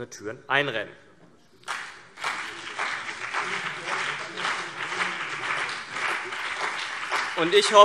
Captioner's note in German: Beifall CDU und BÜNDNIS 90/DIE GRÜNEN